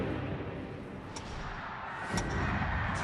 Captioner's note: crowd